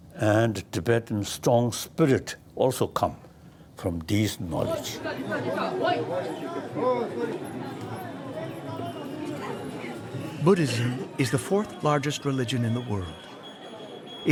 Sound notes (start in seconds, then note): 5.6 people speak foreign language